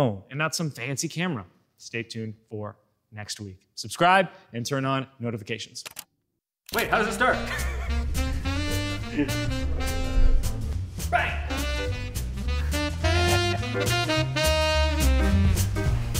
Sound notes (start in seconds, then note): 7.3 laughing; 8.6 upbeat jazzy music; 12.2 upbeat jazzy music continues